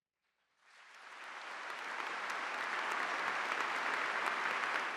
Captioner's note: audience applauding